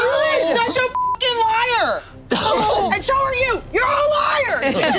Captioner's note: beep; group laughing